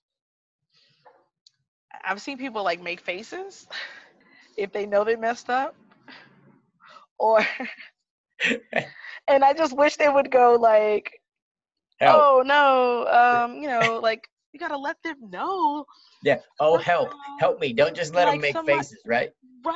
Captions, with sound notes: I've seen people like make faces. If they know they messed up or (both laugh). And I just wish they would go like, "Oh no." Like you got to let them know. - Oh, help. Help me, don't just let them make faces, right?